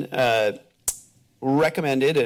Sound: clicks tongue

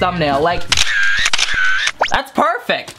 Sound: camera snaps

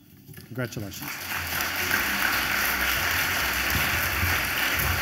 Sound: audience applauds

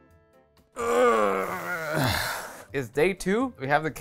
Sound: groaning

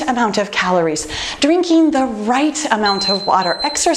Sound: timer beeping

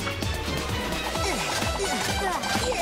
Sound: grunting

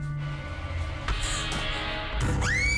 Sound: screams

